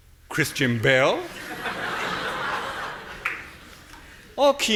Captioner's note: audience laughing